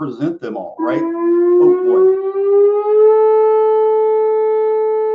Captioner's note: alarm sounds